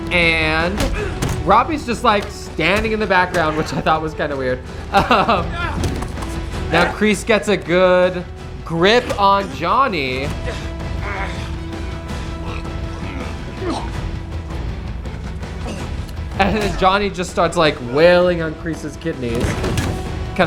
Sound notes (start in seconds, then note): 5.2 laughs; 10.7 upbeat music